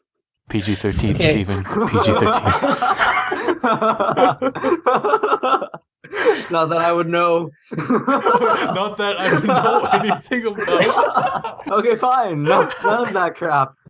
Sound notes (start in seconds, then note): 0.6 stifled laughter; 3.1 laughter; 7.7 more laughter